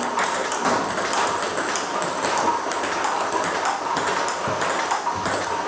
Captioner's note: ball ping pong hitting continues